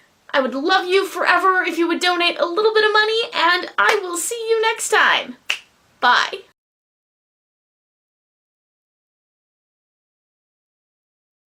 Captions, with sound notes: i would love you forever if you would donate a little bit of money and i will see you next time [finger snaps] bye